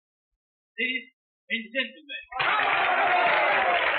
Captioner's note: applause, cheering